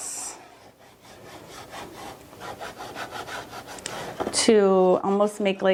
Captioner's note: ink pad scraping